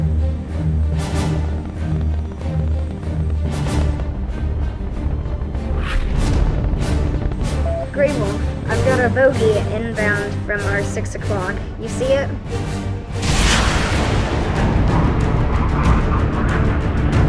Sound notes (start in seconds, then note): 5.6 impact; 13.4 loud afterburner